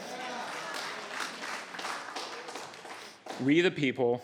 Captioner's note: applauding